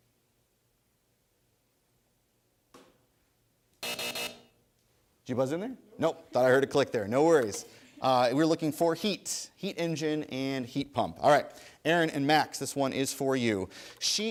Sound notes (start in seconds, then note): 3.8 buzzer